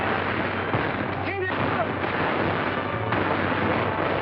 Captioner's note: gunshots; shouting